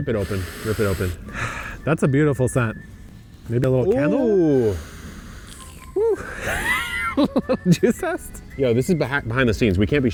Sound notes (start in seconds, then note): 0.1 sniffs; 6.0 laughs